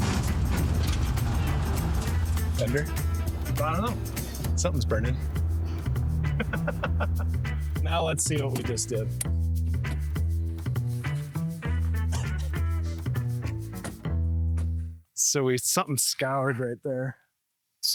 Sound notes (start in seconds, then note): 0.0 scraping; 6.2 laughter; 11.6 coughing; 13.5 doors close